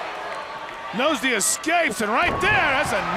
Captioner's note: crowd cheering